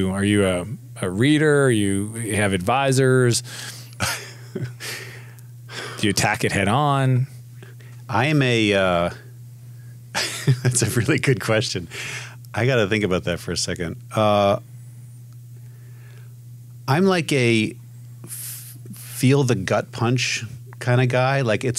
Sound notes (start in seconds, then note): 10.2 laughs